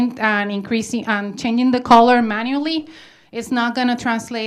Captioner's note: none